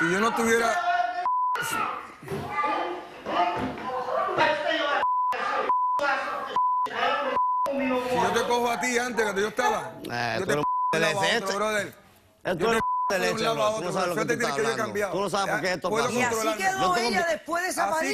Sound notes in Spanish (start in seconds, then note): 13.0 ellos conversan